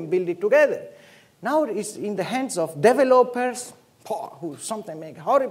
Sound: scoffs

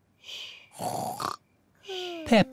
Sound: snores

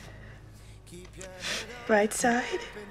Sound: sniffles

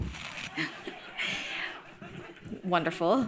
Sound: laughter

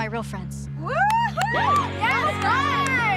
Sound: girls cheering

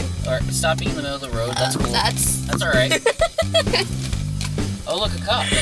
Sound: laughing

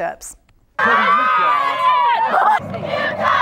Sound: cheers

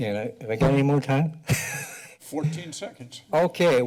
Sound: laughs

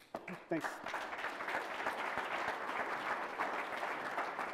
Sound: applause

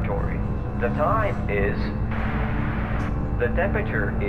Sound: Static

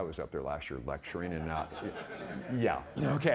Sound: audience laughing

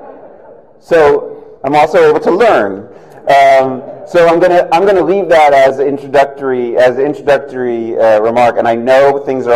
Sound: laughter

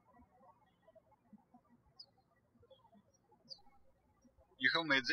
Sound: birds chirping

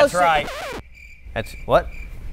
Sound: record scratch; crickets

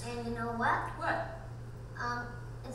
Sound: voiceover

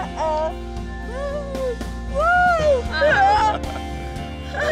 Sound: laughing

